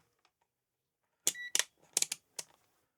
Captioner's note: beep